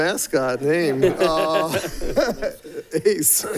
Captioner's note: people laughing